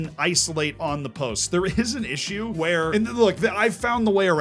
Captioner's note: chuckles